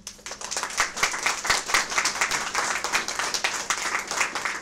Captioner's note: audience applause